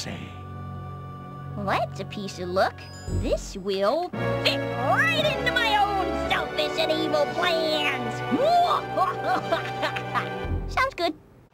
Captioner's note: laughs evilly